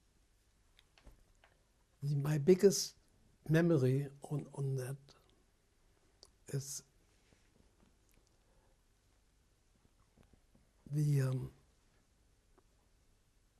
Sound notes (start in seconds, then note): 7.5 pauses for 3 seconds